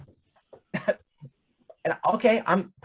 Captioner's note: chuckles